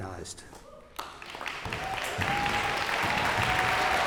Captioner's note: cheers and applause